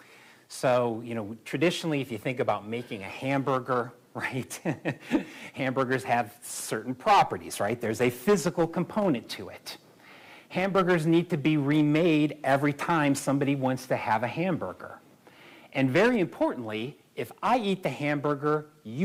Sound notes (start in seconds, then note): 4.5 laughter